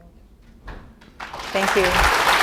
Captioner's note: applause